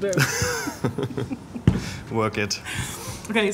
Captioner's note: laughing